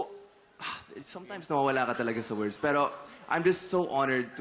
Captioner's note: exhales